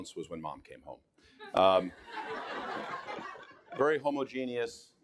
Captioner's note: audience laughing